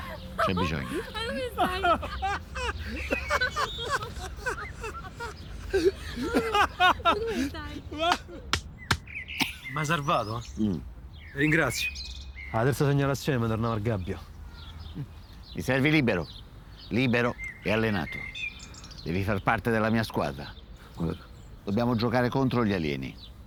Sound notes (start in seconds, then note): 4.1 they keep laughing confused